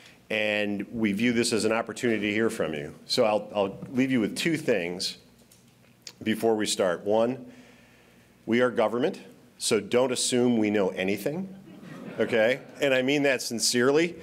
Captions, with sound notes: And we view this as an opportunity to hear from you. So, I'll -- I'll leave you with two things before we start. One, we are government, so don't assume we know anything. (laughter) Okay? And I mean that sincerely.